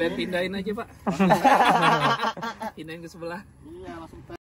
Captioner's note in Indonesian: Tertawa